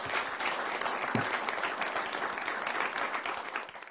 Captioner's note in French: Applaudissements